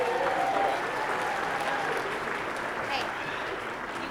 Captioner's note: applause